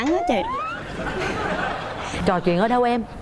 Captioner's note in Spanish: risas